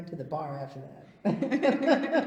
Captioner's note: laughs